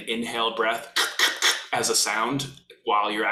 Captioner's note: makes percussive sound